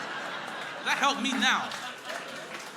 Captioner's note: crowd laughing